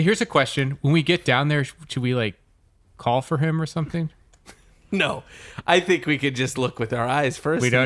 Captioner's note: laughing